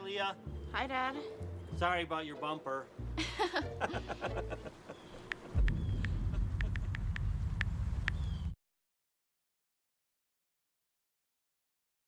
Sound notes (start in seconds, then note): 3.1 both laughing